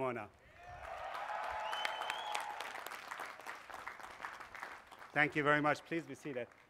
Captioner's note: cheers and applause